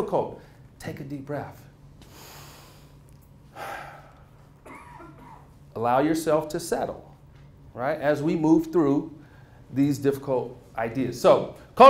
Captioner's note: inhales & Exhales